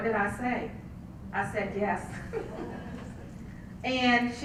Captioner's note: laugh